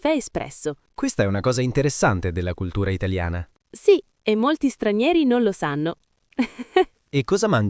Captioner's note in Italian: risate